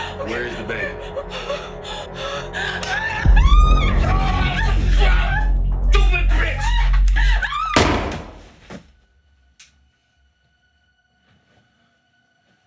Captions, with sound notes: Where is the baby? (gasping) (screaming) What the fuck! Stupid bitch. (screams) [guns shot]